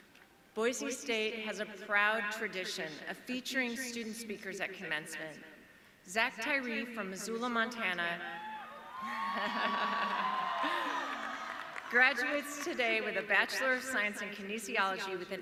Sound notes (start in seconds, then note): 8.4 audience cheering